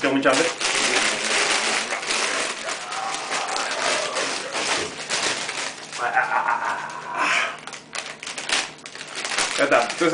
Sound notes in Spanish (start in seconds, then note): 0.6 sonido de Neanderthal comiendo como si estuviese en cuarentena